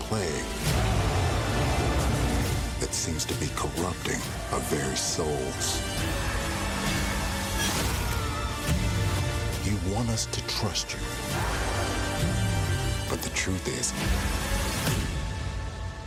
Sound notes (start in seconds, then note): 0.6 loud roaring